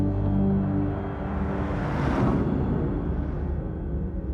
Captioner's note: logo whooshes